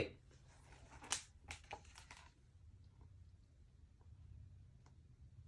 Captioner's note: book squeaking